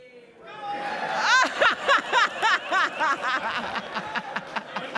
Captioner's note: laughing